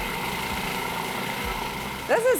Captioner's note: blender whirring